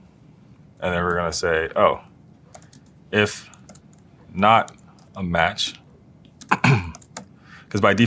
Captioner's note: cough